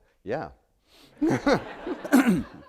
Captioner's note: laughter